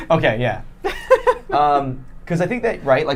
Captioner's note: laughing